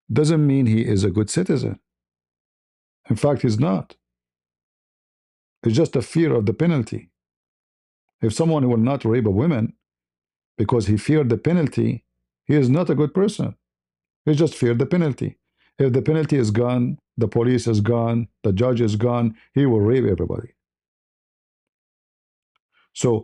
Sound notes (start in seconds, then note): none